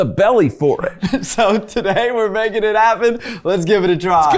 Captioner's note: chuckling